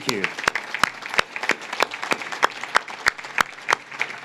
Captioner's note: audience claps